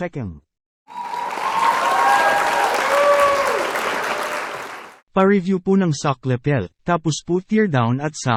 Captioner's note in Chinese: 鼓掌